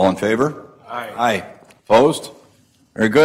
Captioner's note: multiple voices